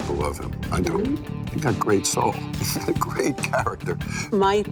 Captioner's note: chuckles